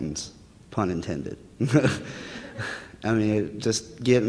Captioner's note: audience laughter